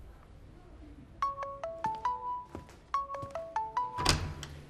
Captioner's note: mobile ringing